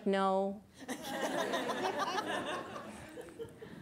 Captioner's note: audience laughs